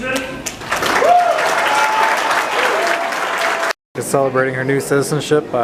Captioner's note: applause and cheering